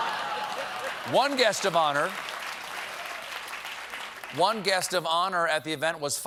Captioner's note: laughter; applause